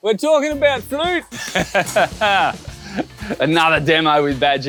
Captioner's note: laughter